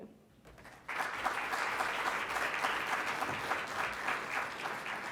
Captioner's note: congregation clapping